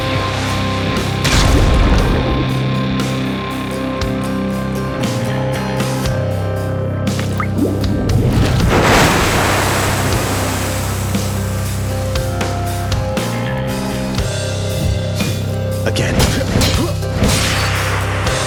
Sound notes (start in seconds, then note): 1.2 splat; 8.7 splash